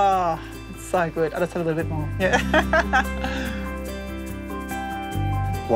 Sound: laughs

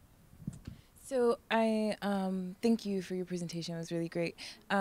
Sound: voiceover

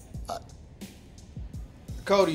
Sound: Cody stammers

